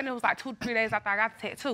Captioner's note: none